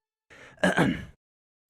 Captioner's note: clears throat